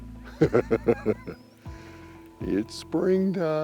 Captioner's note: laughs